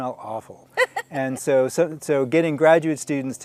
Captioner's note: laughing